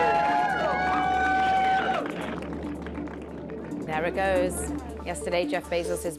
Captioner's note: cheering